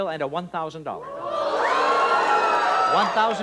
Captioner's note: audience disapproval